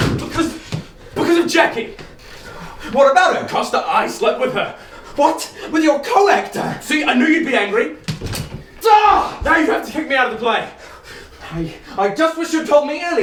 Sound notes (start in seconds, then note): 8.1 shouts